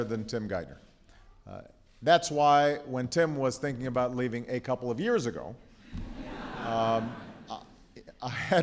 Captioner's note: laughter